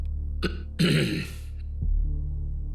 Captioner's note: govindamenon clears throat